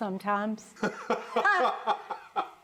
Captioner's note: laughing